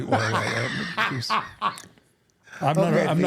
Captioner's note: laughs